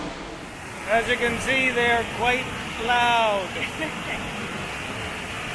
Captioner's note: laughs